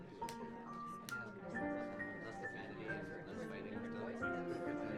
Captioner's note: indistinct chatters